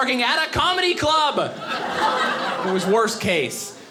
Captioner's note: audience laughing